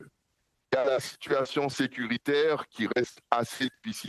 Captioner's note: speaking French